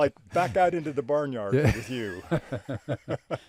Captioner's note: both laughing